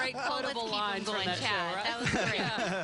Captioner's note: laughing